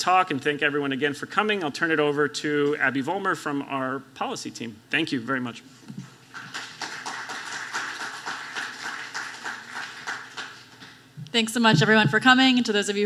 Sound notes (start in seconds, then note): 6.3 applause